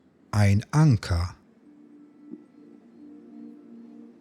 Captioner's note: german